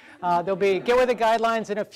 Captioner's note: general laughter